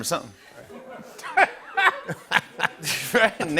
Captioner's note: laughter